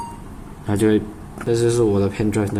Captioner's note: beep